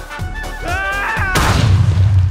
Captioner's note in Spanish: kabum